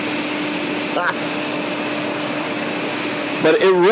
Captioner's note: chuckles